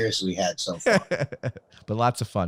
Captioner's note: laughs